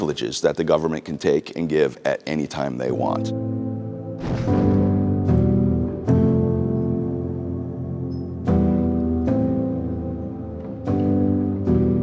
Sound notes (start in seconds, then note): 2.6 mellow music; 4.2 gun blasting